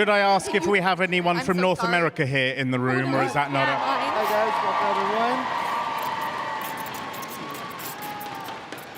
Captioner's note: cheers and applause